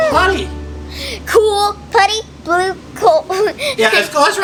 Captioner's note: laughs